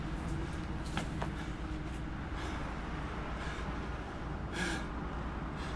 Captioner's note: man breathing heavily